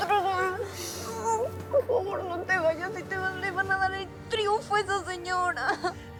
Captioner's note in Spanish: Sollozos